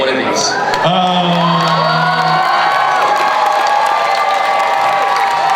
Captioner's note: cheering